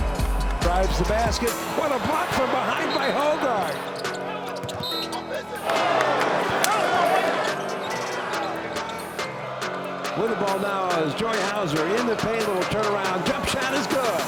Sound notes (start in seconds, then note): 0.0 whistle blows; 4.5 whistle blows; 4.8 crowd and players cheer